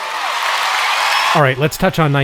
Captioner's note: audience cheering